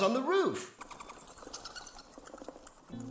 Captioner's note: rustling